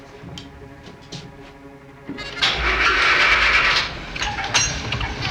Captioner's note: engine starts